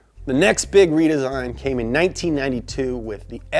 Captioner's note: none